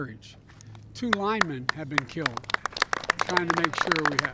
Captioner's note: applause